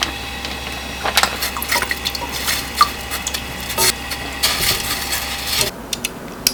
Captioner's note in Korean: 톡 톡 톡